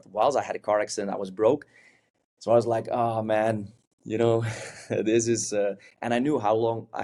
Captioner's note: chuckles